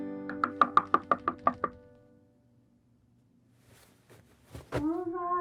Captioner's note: hand knocking on door